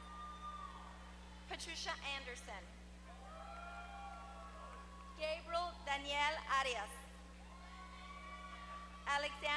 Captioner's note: applause